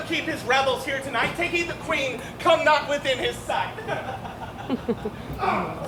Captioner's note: laughs